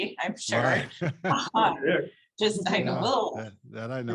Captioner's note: all laugh